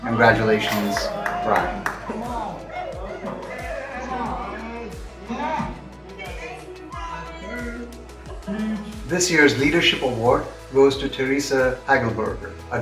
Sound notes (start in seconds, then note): 1.9 crowd cheering